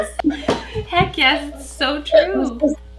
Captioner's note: laughs